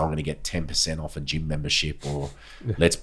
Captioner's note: laughing